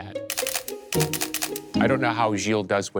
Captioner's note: camera shutter clicking